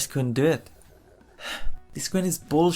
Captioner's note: sigh